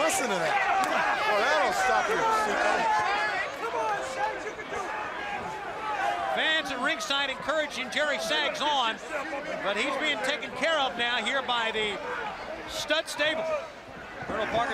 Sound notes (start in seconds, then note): 6.0 crowd chatter